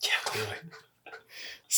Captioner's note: laughs